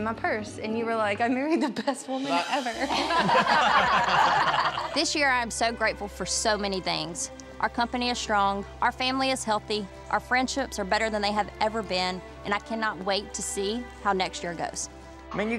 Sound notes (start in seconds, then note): 2.8 laughter